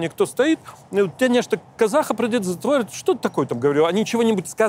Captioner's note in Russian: говорит на болгарском